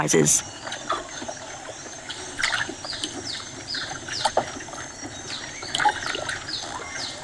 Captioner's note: birds chirping; splashing